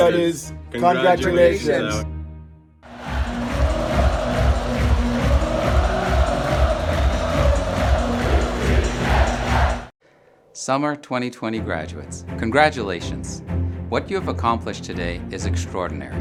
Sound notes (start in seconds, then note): 2.8 crowd cheering; 2.8 upbeat music